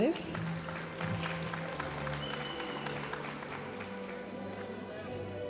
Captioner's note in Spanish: aplausos de la audiencia